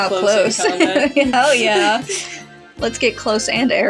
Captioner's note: laugh; snicker